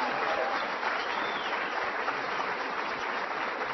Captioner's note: applause